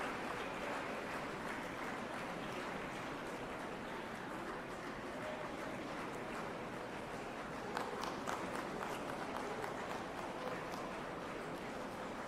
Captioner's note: applause